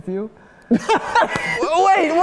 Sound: guys laughing; laughs

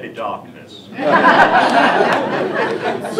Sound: laughter

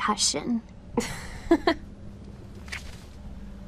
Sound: Marceline laughs

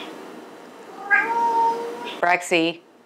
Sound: meow

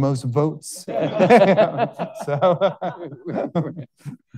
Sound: all laughing

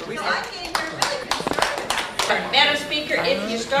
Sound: applause

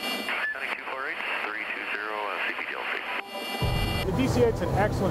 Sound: voices over Radio

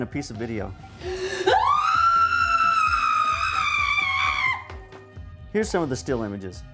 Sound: female screams

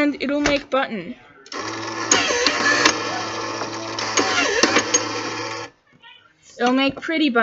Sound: sounds of button maker

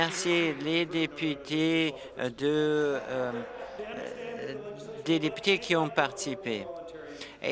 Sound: applause

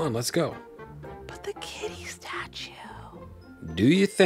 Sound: whispering

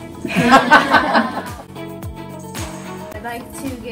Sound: group laughs

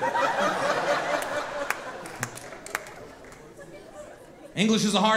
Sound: audience laughing

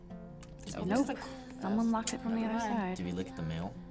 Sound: clicks tongue

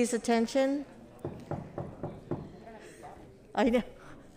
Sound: knocking; giggles

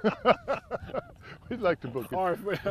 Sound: laughter

